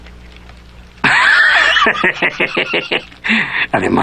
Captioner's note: Belcher snickers